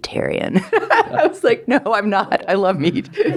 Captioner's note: laughs